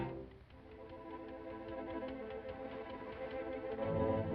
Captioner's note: ticking